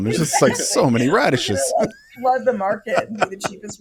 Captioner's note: laughs